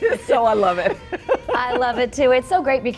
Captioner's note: laughing